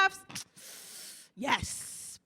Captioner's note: inhales Through Her Teeth